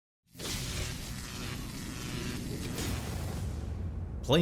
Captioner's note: electricity crackling